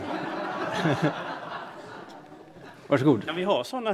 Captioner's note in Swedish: Skratt